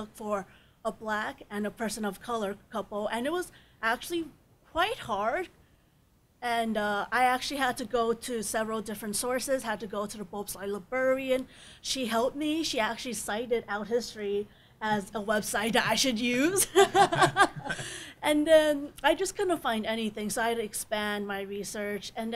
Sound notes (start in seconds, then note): 16.6 panelists laughing